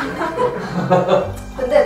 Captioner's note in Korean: 웃음